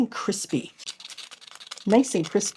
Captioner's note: crispy sound